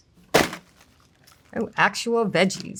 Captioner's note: packaging thudding